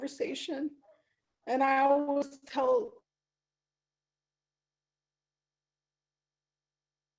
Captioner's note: audio cut out